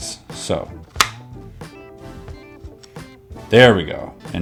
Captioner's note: button clicking